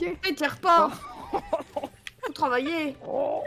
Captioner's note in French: rires